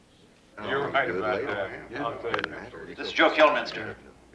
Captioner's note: chattering